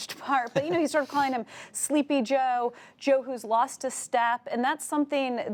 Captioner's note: laughter